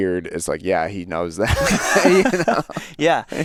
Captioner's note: laughs